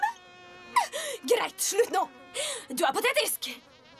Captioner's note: flies buzzing